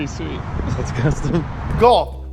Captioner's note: laughs